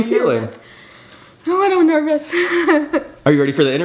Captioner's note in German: lacht